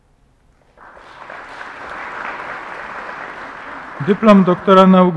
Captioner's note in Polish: oklaski